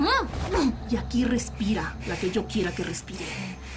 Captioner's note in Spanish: Quejidos